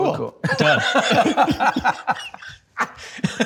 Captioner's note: both laugh